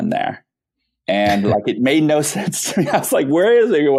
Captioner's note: laughing